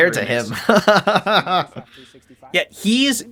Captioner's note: laughing